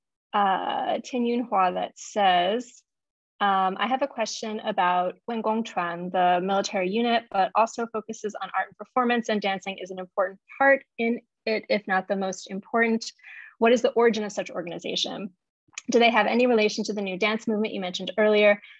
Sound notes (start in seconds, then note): 5.0 speaking in Mandarin